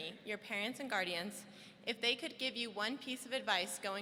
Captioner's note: none